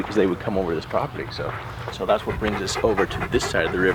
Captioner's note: none